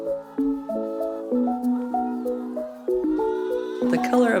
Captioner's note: hens clucking